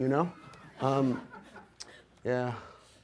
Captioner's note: audience laughs